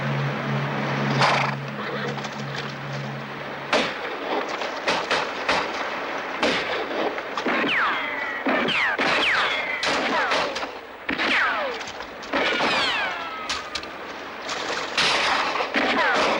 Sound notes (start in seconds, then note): 1.2 Iltschi snorts